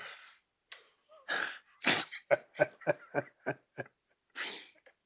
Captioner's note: both chuckling